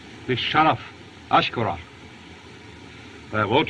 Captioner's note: speaking Native Language